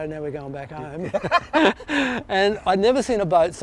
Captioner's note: laughs